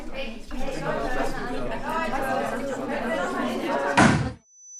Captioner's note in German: Gemurmel